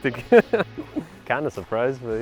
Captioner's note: laughter